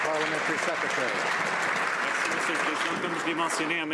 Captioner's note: some Applause